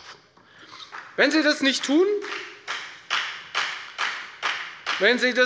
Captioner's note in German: Beifall bei der FDP